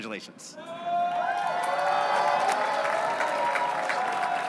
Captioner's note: cheering